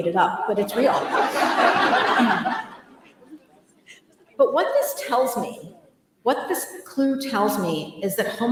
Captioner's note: laughter